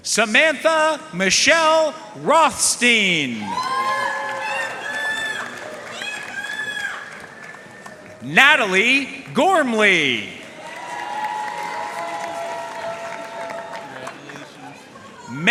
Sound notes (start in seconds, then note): 3.4 audience cheering and applauding